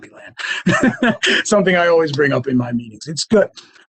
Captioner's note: laughs